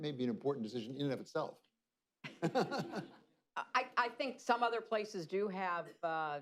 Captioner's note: laughter